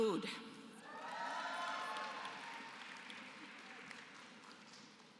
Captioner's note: applause